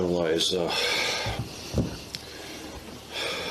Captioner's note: sighs